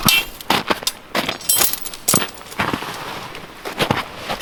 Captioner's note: snow crunching